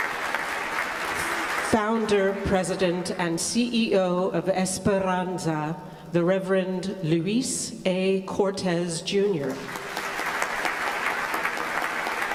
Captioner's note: applause